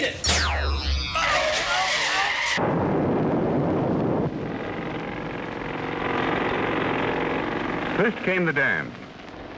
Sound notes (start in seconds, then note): 1.5 <i> shouting</i>; 2.5 <i> explosion</i>; 3.2 <i> shouting</i>